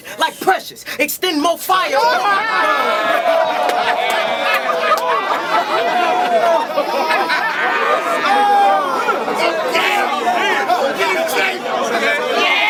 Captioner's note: crowd Reaction